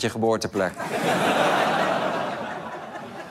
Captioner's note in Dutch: gelach